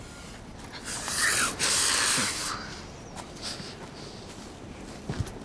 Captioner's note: woman breathing deeply